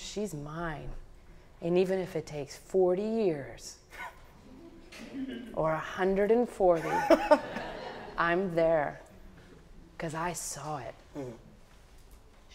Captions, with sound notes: I'm telling you, she's mine and even if it takes 40 years or 140 (audience laughing) I'm there cause I saw it.